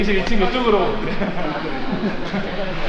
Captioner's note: laughs